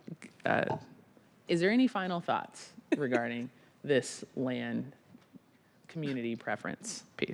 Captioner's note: laughter